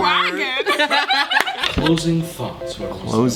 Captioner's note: everyone laughs